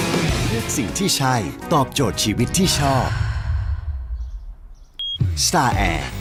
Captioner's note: sigh